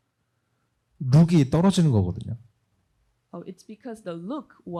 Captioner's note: speaking korean